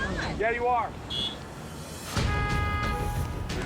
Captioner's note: horns honking